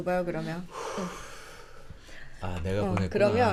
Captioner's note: breathing nervously